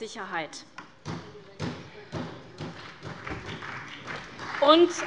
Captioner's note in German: Beifall bei der SPD